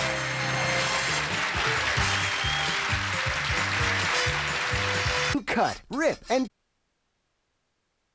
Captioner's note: audience applauding